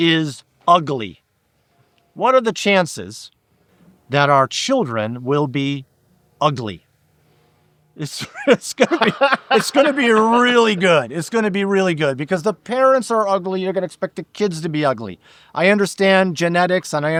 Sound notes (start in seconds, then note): 8.2 laughing